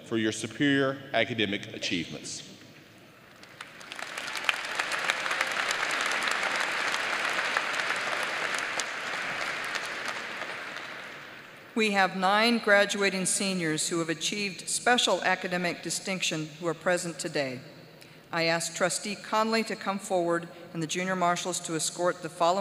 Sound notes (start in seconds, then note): 7.9 applause